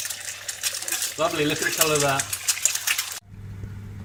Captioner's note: sizzles